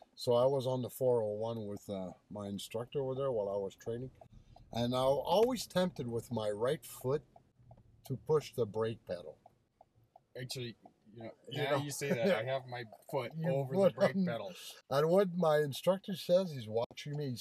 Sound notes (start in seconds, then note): 11.6 chuckles briefly